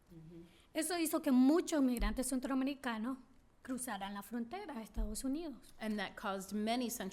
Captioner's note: speaking spanish